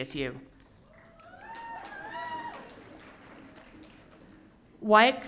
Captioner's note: audience cheering